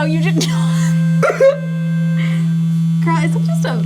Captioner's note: laughs